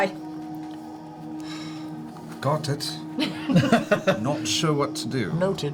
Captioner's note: exhales